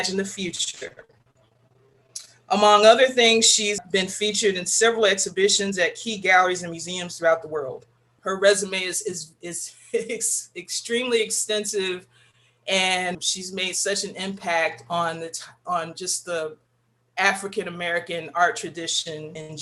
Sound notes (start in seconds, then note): 9.4 laughs